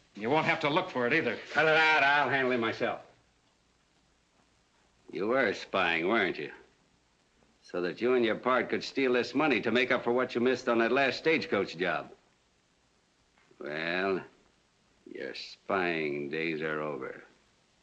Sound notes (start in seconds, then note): none